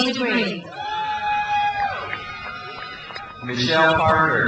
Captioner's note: crowd cheers